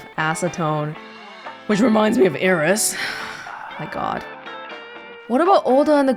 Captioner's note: sighs